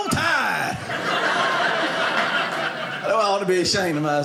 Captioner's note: audience laughing